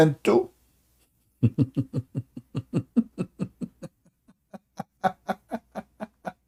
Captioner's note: Ketawa